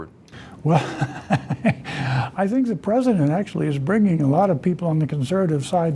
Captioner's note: laughing